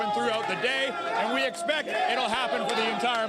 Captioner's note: applause